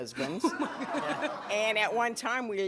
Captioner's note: laughter